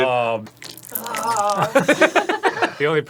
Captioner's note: slimy wet noises; grossed out noises from the room